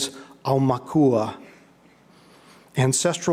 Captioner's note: speaking in foreign language